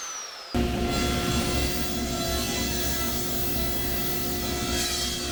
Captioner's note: table saw cutting